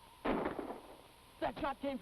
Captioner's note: gun fires